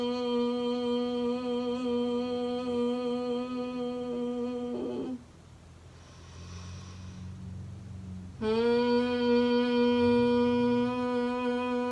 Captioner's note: exhale humming bee sound